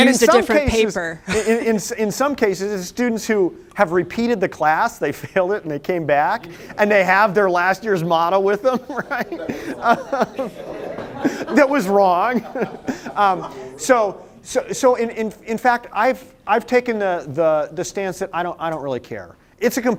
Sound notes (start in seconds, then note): 1.2 laughter; 4.9 laughter; 8.6 laughter; 11.5 group Chatter